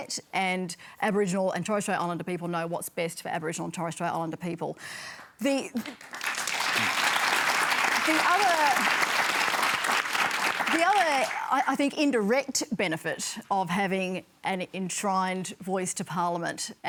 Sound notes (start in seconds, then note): 5.8 applause